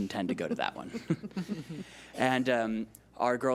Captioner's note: chuckling